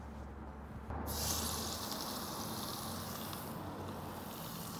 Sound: sizzling

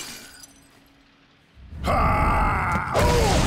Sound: grunting

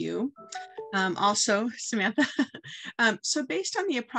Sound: chuckles

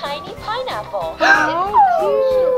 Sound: gasping

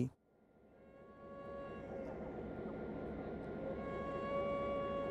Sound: faint train whistle and rumbling

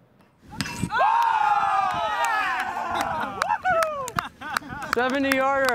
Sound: cheers

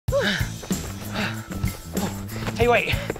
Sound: panting

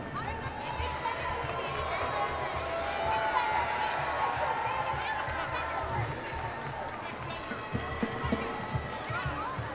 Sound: applause

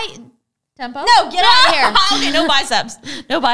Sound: laughs

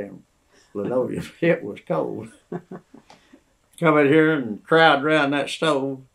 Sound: laughter

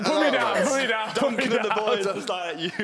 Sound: loud chattering; laughing

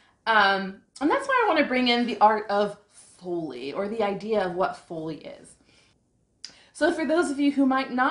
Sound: none

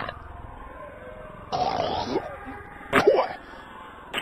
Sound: audibly spits

